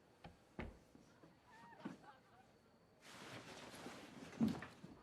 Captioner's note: distant laughter